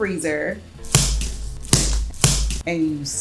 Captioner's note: banging